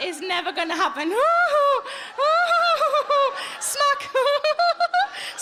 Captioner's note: giggling